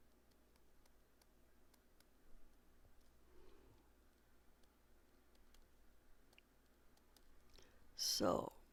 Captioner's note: pause